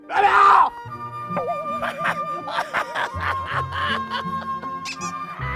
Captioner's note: sobbing